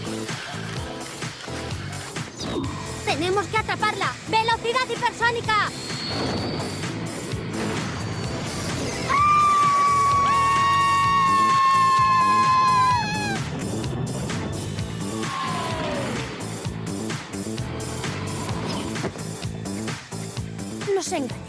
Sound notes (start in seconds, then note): 7.0 engine rumbling; 8.4 blast; 11.0 screaming; 16.8 engine shuts down